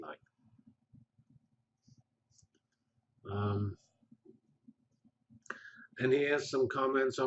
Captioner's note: pause